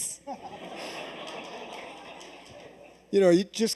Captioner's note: laughter